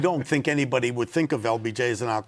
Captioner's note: laughs